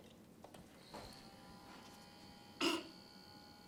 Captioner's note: machine whirring